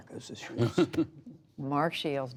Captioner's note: laughter